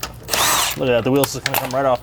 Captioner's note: tool whirring